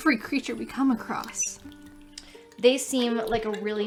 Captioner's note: sounds of water swishing